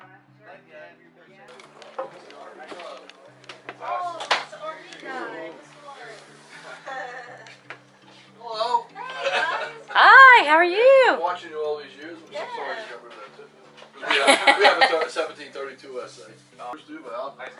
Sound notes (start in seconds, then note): 5.6 vinyl swishes; 14.0 laughter